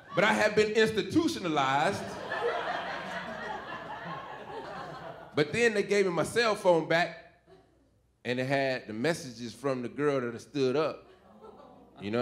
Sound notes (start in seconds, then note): 0.0 audience laughing; 1.7 audience giggling